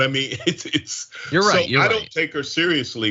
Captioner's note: laugh